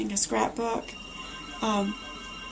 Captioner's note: phone ringing